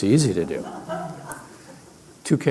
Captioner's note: laugher